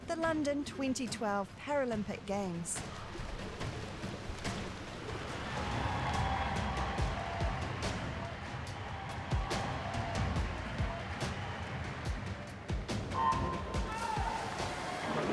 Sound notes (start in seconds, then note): 5.4 cheering; 12.6 starting klaxon